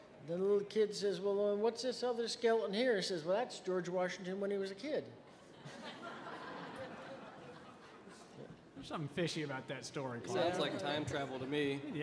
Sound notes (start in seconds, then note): 5.4 audience laughing